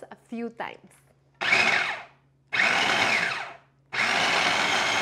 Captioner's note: food processor whirs